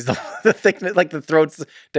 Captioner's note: Tim laughs